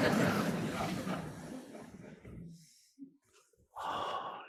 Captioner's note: audience laughing